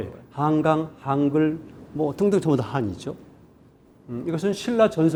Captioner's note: speaking in Korean